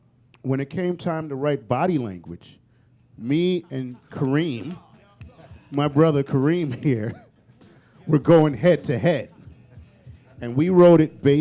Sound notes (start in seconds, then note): 6.7 chuckle